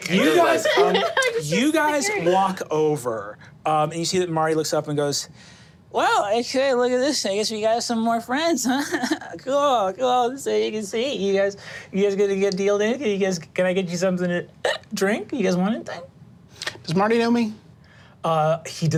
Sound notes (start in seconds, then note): 14.6 hiccups